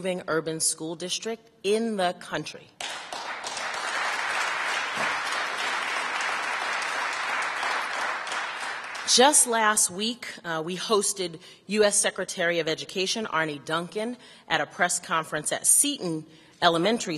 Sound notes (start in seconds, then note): 5.6 applause